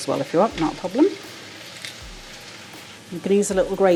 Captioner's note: wet crunch